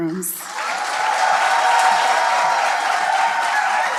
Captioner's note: cheers